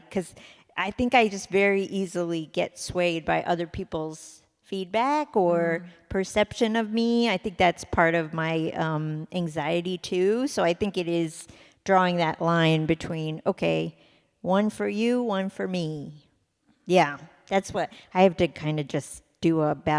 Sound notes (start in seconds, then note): none